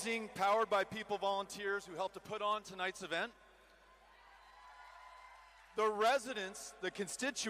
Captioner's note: cheering